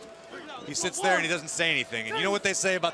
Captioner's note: crowd cheering